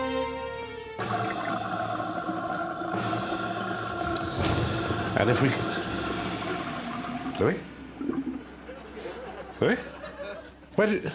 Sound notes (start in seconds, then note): 1.4 draining sound